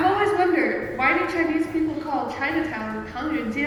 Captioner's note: speaking Mandarin